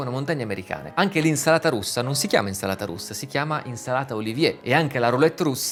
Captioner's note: in Italian: Russian salad